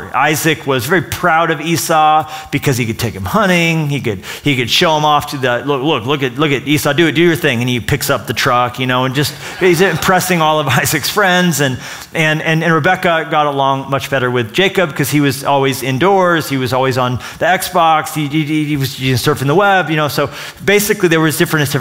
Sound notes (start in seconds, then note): 9.2 laughter